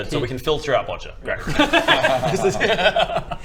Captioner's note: laughs